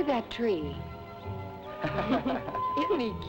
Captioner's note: all chuckling